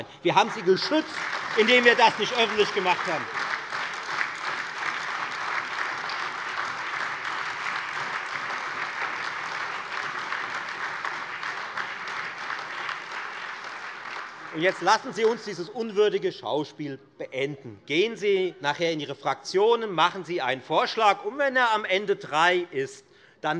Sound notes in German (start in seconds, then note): 5.2 Beifall Freie Demokraten, SPD, AfD, und DIE LINKE